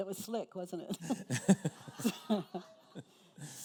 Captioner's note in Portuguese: risos da plateia